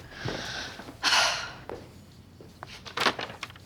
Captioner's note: sighs